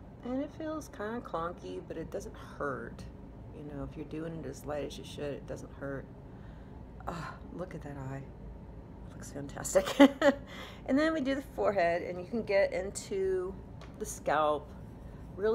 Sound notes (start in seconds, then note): 9.9 chuckling